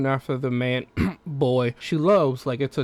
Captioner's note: cough